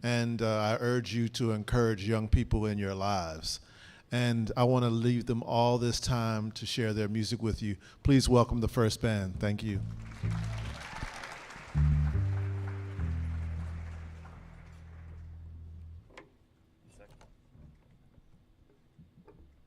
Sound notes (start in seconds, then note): 9.9 audience applauding